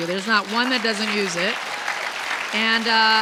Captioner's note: audience clapping